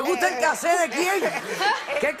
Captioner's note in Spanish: habla en portugués